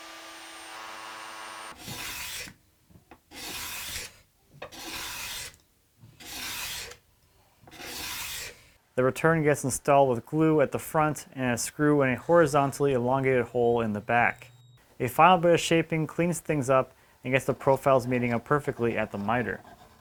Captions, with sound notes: (slow scraping) The return gets installed with glue at the front and a screw in a horizontally elongated hole in the back. A final bit of shaping cleans things up and gets the profiles meeting up perfectly at the miter.